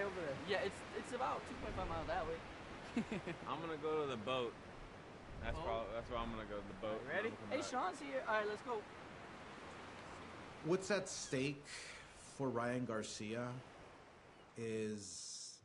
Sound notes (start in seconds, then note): 2.8 laughing